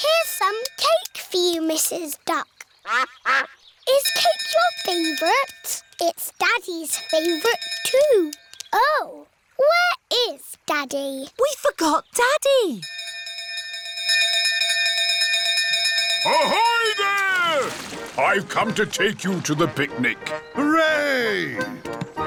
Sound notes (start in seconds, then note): 2.8 quacking; 6.9 bell dinging; 12.8 bell continues dinging